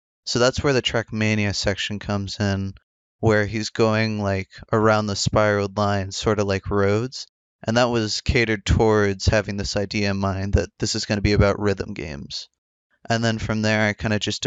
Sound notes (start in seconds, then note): none